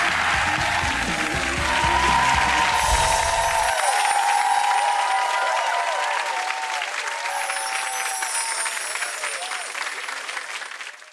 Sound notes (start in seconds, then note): 0.0 upbeat music; 2.5 chimes ring